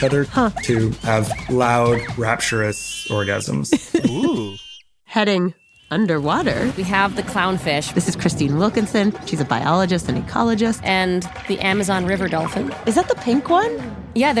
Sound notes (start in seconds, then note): 3.2 laughs